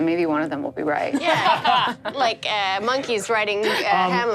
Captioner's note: laughs